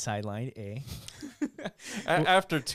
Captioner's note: laughing